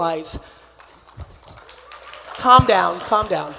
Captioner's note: attendees applauding